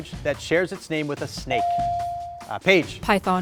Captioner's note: buzzer dings